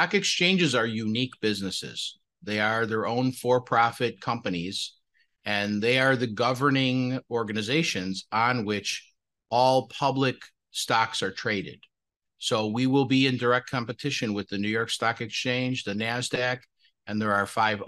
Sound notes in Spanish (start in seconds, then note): 7.4 HABLA EN INGLéS